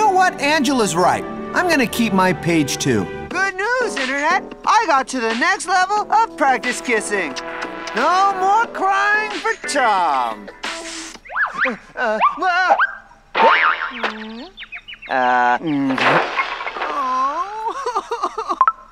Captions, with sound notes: You know what? Angela's right. I'm gonna keep my page, too. Good news, internet! I got to the next level of practice kissing. No more crying for Tom! [boing] -[birds tweeting] -Uh... [sobbing]